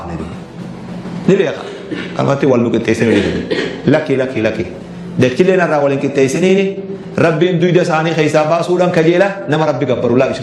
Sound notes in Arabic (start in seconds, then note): 3.0 تنحنُح